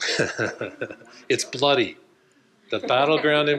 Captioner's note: laughs